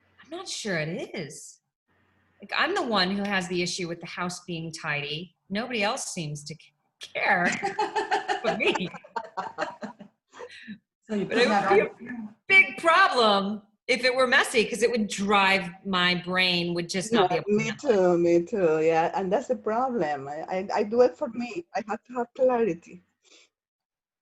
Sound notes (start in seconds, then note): 7.5 laughs